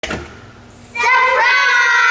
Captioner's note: door clicking